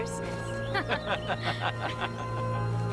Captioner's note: laughing